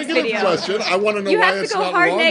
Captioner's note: laughter